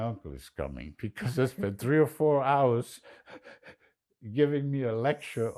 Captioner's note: laughing